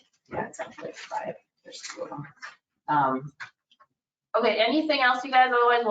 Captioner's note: committee members speaking faintly